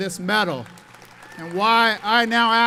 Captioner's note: audience applauds